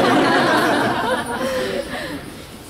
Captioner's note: laughter